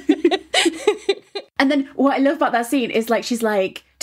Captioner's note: laughing